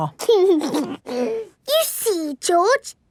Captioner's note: giggles